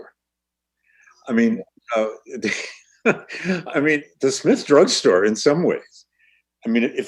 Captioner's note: laughs